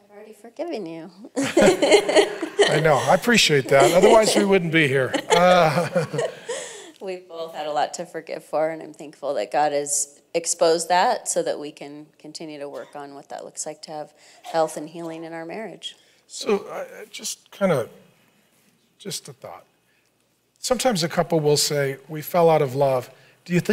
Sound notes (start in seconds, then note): 1.4 laughs; 5.7 both laughing